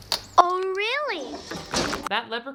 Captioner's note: window slamming